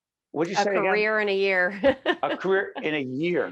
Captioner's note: laughing